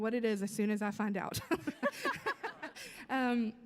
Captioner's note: laughs